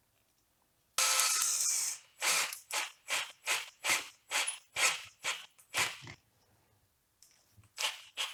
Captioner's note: drill noises